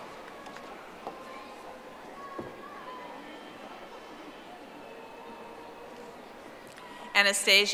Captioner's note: audience applauding